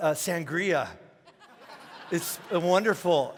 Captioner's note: congregation laughing